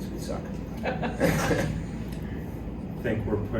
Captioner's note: laughs